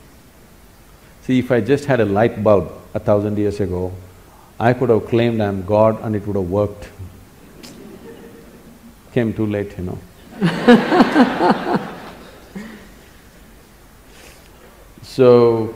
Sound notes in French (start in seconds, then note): 10.2 rire